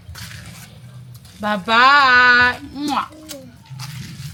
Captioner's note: kisses